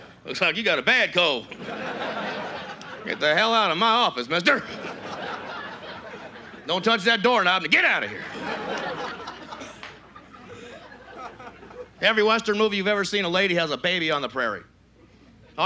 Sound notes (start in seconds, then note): 12.0 normal voice